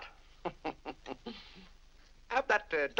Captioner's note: chuckles